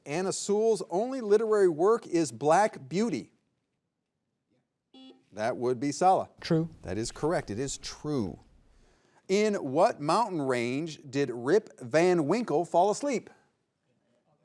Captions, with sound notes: Anna Sewell's only literary work is "Black Beauty." (buzzer buzzing) That would be Salah. - True. - That is correct. It is true. In what mountain range did Rip Van Winkle fall asleep?